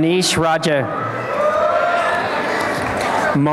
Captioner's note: applause and cheering